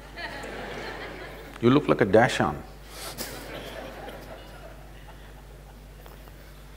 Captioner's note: laughter